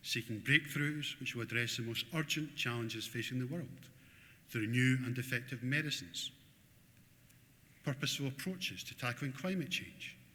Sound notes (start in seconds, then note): none